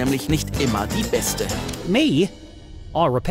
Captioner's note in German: englisch